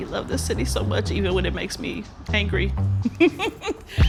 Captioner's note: laughs